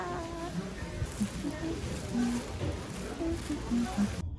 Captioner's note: humming